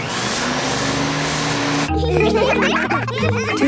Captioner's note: whirring; all laughing